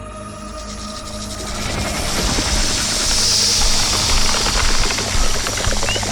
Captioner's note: snake hisses; snake rattles